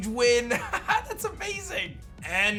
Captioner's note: laughs